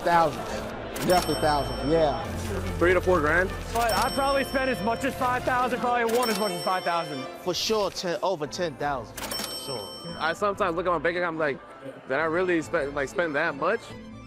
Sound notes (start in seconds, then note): 0.0 laughing; 9.2 registry ringing